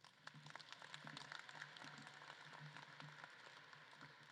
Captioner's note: audience claps